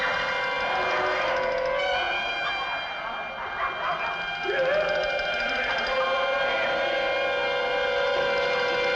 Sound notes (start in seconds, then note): 2.0 men laughing and chattering